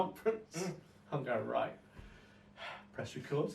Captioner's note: sighs